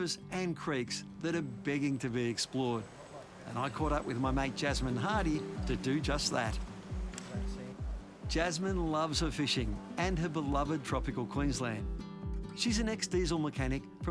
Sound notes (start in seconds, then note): 6.1 gentle music continues; 8.3 fish splashes